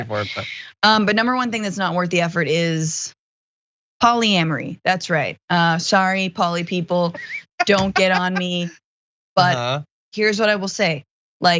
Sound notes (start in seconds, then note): 7.1 laugh